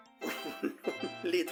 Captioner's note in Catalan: Riu